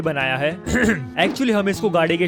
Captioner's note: clears throat